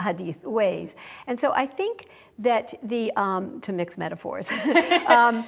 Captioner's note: laughs